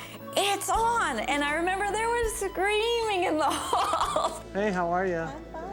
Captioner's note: laughs